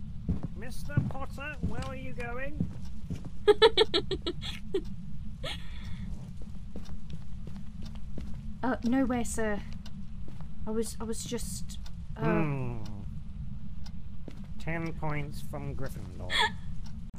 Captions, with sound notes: Mr. Potter, where are you going? *laughing* Uh, No way sir. I was I was just. Hmmm 10 points from Gryffindor.